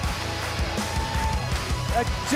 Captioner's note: cheers and applause